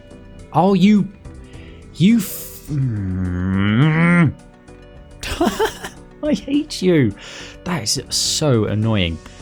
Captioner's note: laughs